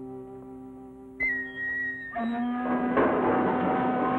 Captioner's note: sentimental flute music; whistling sound; shift whistle sounds; machinery rattling